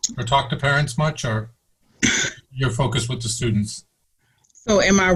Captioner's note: coughs